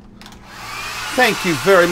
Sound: hair Dryer Blows

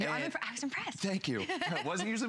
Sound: laughter

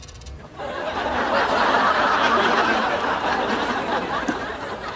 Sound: audience laughing

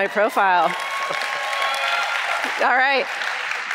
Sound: audience cheering

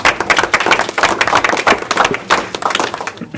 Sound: applause

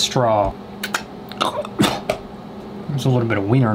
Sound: spits; chokes

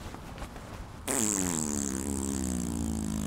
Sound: farts

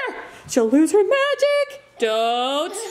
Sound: singsong voice

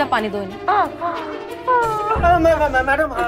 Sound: crying

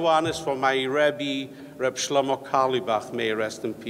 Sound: speaks foreign language

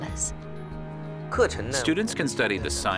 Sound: speaking Chinese

